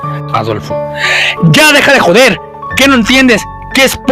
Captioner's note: shouting